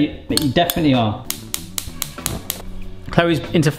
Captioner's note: stovetop clicking